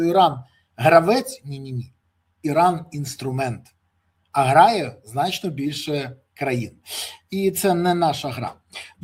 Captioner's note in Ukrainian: сопіння